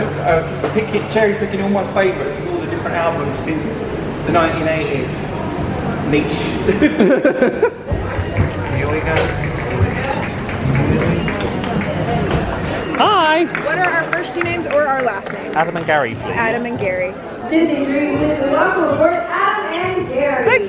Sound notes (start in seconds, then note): 6.7 both laughing; 11.0 guests chattering